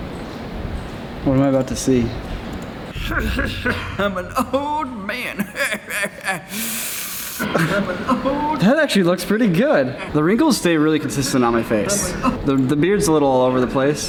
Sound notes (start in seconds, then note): 6.3 inhales